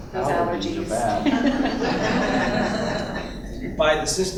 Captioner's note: laughter